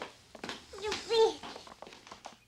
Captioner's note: baby cooing